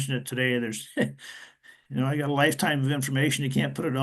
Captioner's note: laughter